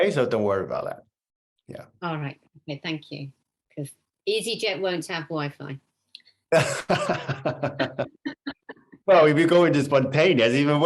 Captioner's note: laughter